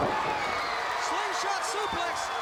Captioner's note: crowd cheering